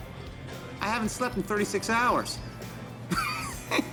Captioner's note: laughs